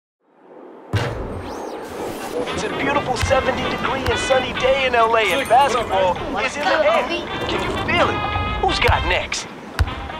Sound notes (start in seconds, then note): 2.6 radio Announcer